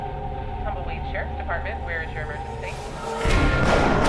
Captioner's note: woman speaking on phone